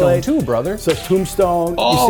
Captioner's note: bullet ricocheting